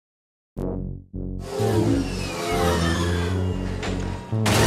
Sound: speeder bikes whirring

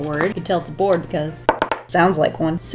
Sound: knocks

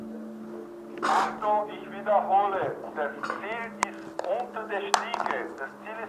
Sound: radio

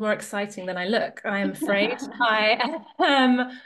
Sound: everybody laughing

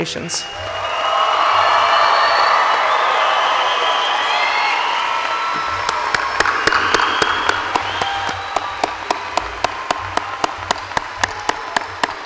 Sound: applause

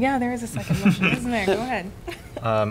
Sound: laughter

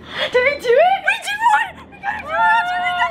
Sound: gasping

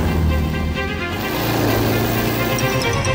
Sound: car passing quickly; another car passing quickly

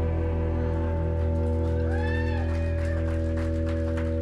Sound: cheers and applause

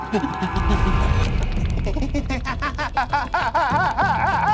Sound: groaning loudly

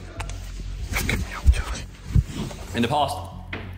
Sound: rustling

